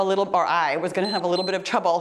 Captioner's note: timer beeps